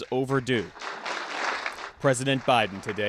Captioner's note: applause